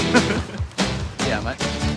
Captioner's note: laughs